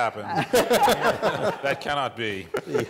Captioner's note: laughter